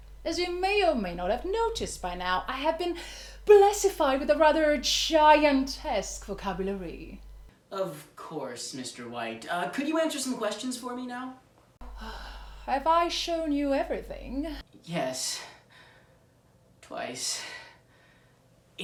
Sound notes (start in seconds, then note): 11.9 sigh